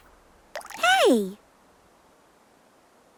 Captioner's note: water drops splashing